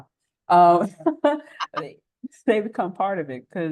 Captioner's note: laughter